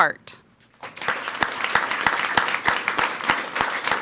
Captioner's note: people clapping